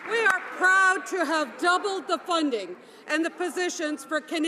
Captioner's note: some Applause